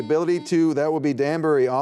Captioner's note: buzzer beeping